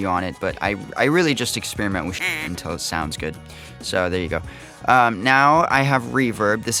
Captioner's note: quack